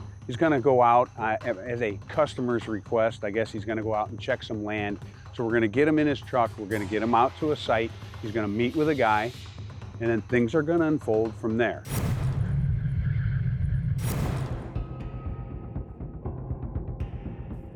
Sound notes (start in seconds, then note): 11.9 electronic whirring; 15.0 intense music